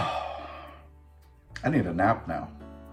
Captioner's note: sigh